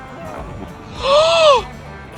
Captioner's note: gasps